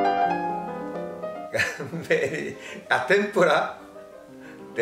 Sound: laughs

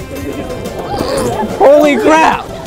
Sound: snorting

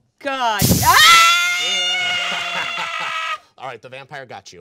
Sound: hissing; screaming

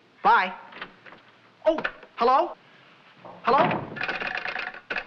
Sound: door opens

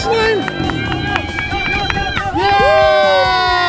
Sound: cheers

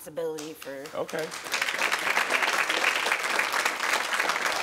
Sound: crowd clapping

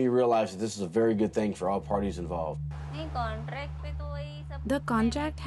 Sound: through translator

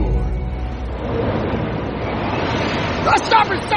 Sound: wind blowing hard

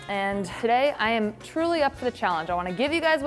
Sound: none

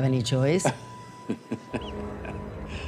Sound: guy laughs; ominous music

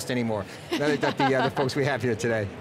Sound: laughs

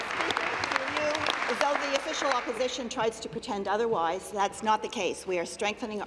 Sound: applause

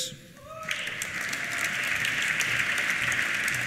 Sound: cheers; applause

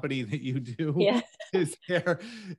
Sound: group laughs

